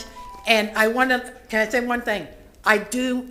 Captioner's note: bell sounds